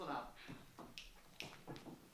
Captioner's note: snaps